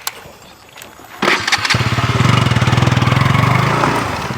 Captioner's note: bike ignition sound